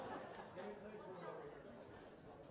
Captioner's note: laughter